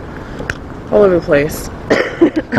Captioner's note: coughs, drops paper out of her pocket